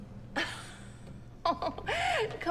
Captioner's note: Elaine laughs